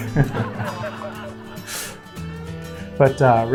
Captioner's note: laughter of others